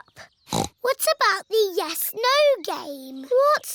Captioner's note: snorts